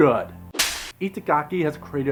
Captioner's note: slap